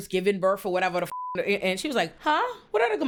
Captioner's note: beep